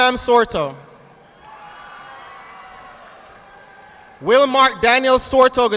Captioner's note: audience applauding